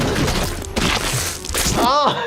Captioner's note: hand squishes; laughs